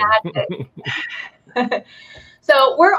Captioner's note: both laughing